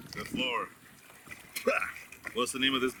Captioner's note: spits